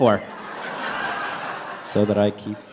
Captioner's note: laughter